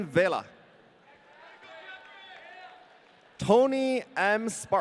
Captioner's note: audience cheering